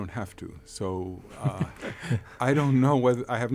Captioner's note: laughing